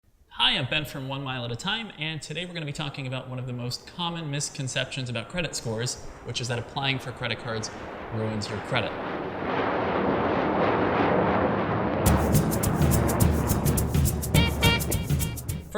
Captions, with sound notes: - Hi, I'm Ben from One Mile at a Time and today we're gonna be talking about one of the most common misconceptions about credit scores, which is that applying for credit cards ruins your credit. (airplane soaring) (energetic music)